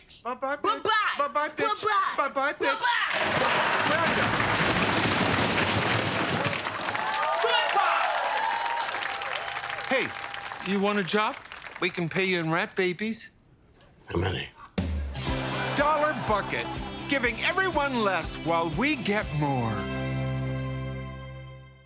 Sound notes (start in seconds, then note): 8.5 applause, cheering